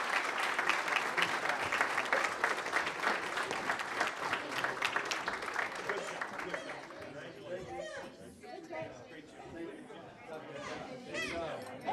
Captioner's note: applause